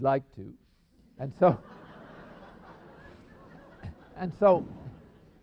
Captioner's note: laughter